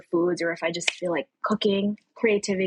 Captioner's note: snaps fingers